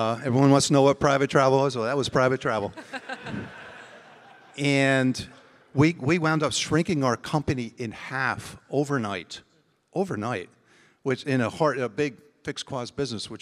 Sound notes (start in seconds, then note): 2.6 audience laughing